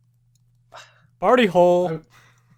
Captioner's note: sighs